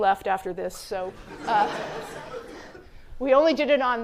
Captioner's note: laughter